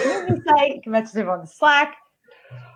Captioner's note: laughs